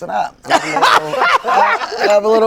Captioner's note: all laughing